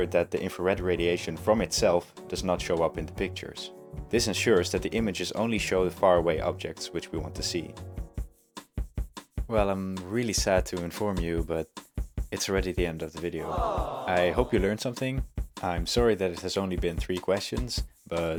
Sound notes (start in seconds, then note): 13.4 sad crowd noise